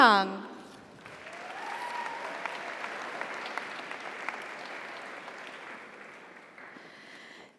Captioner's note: audience applauds; audience cheers